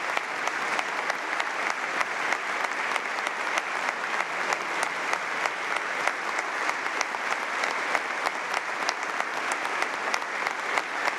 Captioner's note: applause